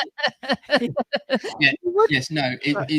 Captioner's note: laughter